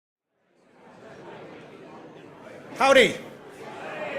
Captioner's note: audience murmuring